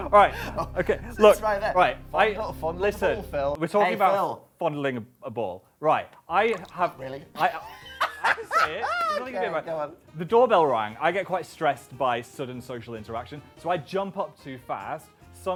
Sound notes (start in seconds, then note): 7.3 laughs